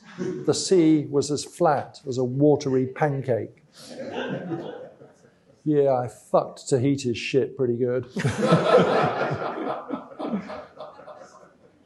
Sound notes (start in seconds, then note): 8.1 laughter